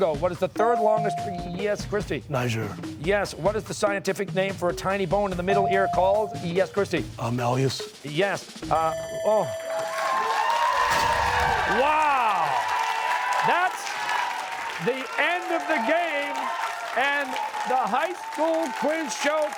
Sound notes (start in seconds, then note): 8.8 bell ringing; 9.9 cheers and applause